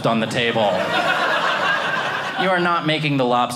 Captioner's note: audience laughing